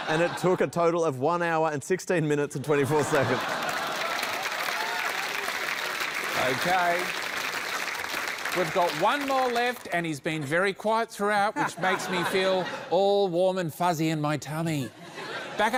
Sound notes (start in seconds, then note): 3.2 cheering, applause; 7.8 applause